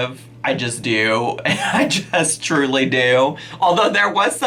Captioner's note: laughing